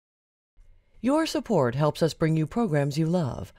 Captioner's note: voiceover